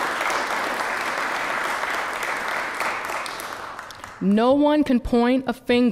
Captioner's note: applause